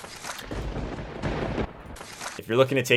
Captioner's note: thunder rumbling